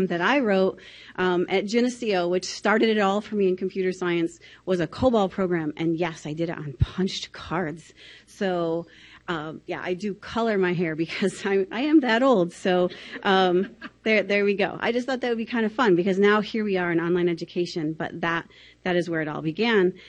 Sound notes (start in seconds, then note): 13.5 laughing from the audience